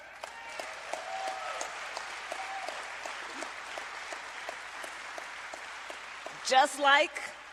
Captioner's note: applause